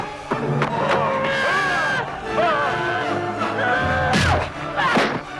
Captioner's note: villager roars